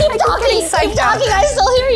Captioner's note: laughing